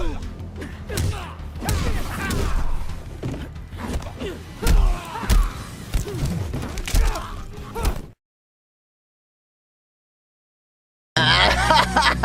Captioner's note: evil laugh